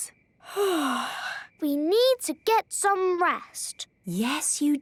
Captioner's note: yawning